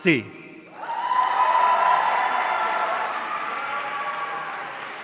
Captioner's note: audience cheering